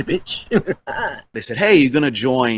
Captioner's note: giggles